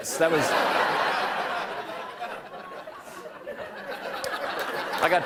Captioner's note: laughter